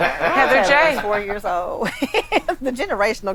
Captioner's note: laughs